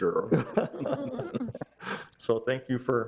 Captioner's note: group laughing